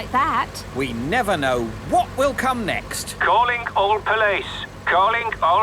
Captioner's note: radio